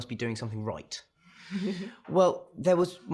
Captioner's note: chuckles